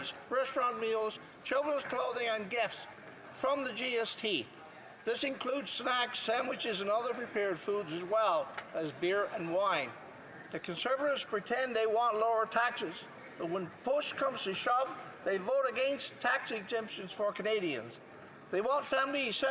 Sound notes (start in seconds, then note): none